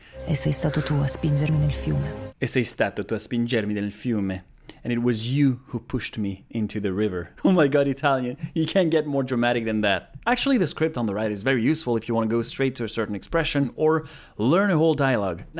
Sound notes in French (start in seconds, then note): 2.3 répète la phrase en italien; 4.7 lit la traduction en anglais